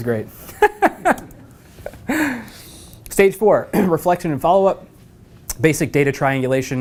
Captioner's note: laugh